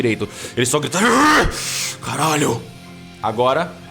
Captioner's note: growl